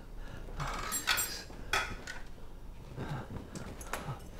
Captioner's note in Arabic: تنفس ثقيل